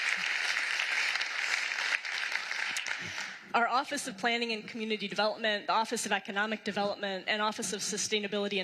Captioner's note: applause